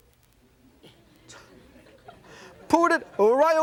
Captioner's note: yelping; audience laughing